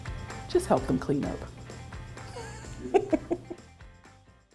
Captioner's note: laughs